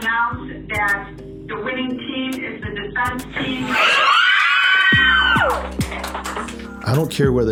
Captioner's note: crowd cheers and screams